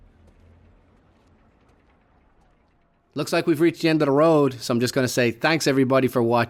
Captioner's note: still got a cold voice